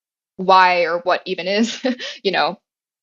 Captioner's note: laugh